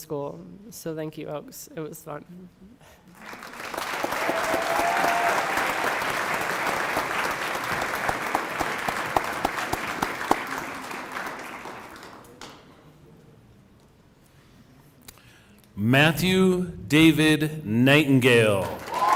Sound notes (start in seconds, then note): 8.1 applause